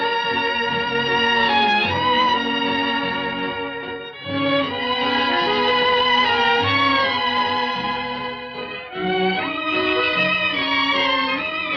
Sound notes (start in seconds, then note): none